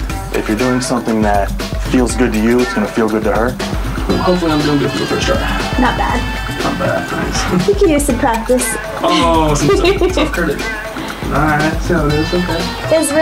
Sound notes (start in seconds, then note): 8.6 laughing